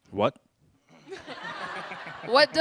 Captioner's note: laughter